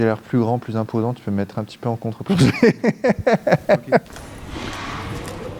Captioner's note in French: rires